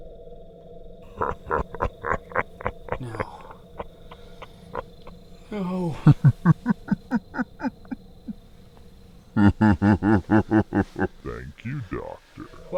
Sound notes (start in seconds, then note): 0.3 intense music; 1.3 laugher; 6.5 laugh